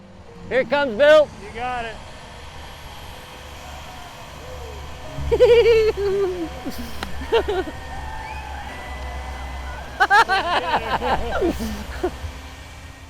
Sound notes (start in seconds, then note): 3.4 cheering; 5.4 laughter